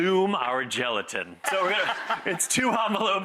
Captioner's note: laughing